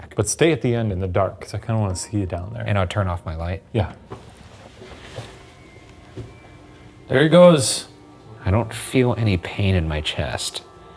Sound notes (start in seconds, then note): 4.0 footsteps rustling; 5.1 gentle eerie music